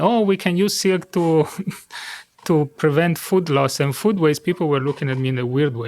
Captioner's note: chuckles